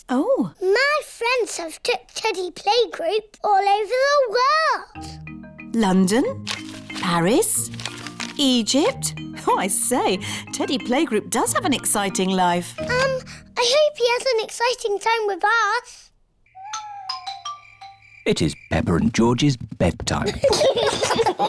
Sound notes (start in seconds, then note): 16.5 owls hoot; 20.2 both giggle